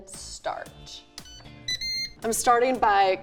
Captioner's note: airfryer beeping